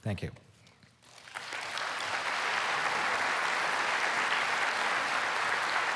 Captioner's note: applause